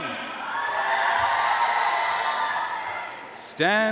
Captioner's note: audience cheering and applauding